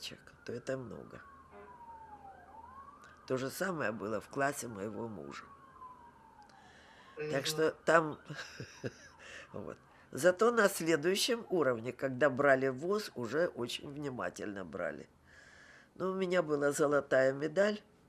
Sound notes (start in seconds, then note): 8.3 laughing